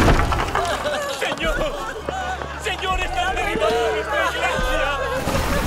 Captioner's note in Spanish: llora